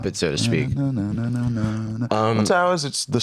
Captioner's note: vocalizing